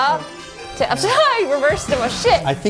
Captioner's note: laughs